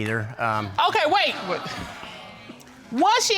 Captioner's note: audience exclaiming